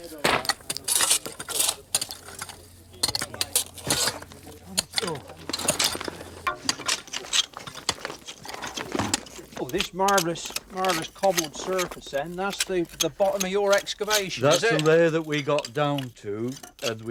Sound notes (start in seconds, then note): 0.0 dirt splatting; 0.3 shovel scraping; 5.6 dirt falling